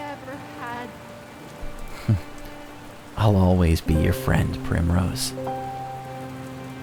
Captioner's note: laughing